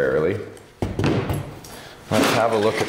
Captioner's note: battery clunks